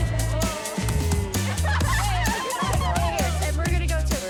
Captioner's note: laughter